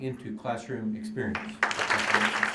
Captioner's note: applause